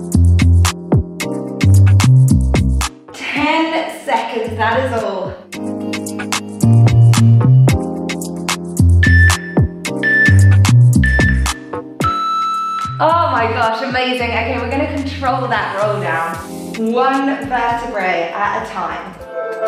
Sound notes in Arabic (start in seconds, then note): 10.0 المؤقت يصدر صوتا